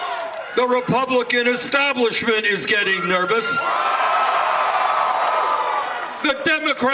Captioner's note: cheers